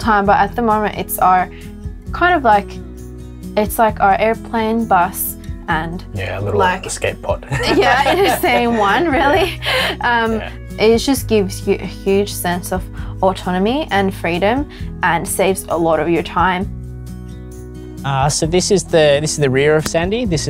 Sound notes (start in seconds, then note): 7.4 laughs